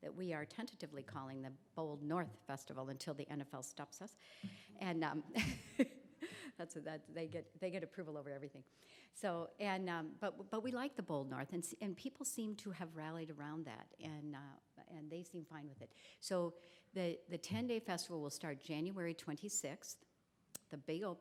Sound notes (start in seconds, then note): 5.0 laughs